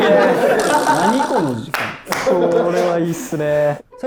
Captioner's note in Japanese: 一同・スタッフ：笑い